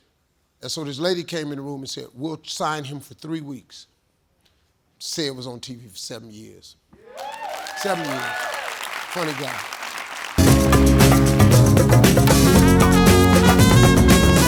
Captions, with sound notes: And so this lady came in the room and said we'll sign him for three weeks. Ced was on TV for seven years. (audience cheering) Seven years. Funny guy. (jazz music)